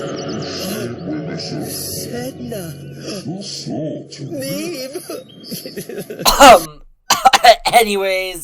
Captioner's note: sims noises; cough; cough cough